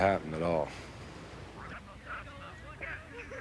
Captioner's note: indistinct chatter